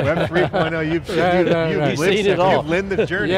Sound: laughs

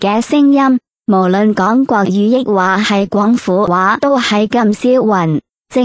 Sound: ภาษา กวางตุ้ง

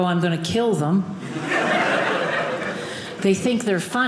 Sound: audience laughing

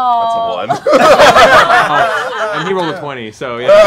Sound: laughing

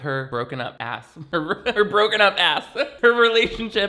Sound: laughs

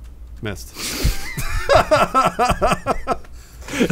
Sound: laughing

